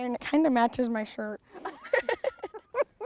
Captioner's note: both laugh